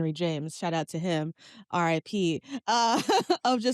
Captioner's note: laughs